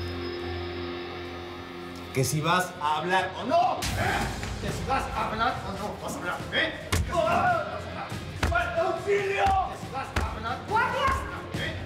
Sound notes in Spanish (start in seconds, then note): 4.6 bofetada